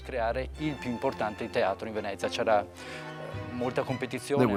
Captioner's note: Italian spoken audio